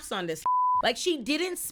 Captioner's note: beep